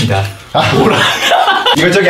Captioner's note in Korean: 웃음소리